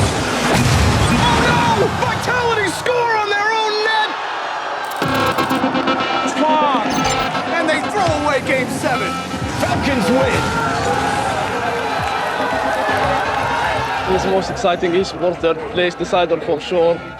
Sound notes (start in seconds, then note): 9.7 crowd cheering